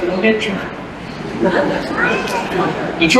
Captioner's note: laughter